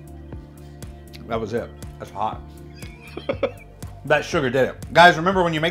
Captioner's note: chuckles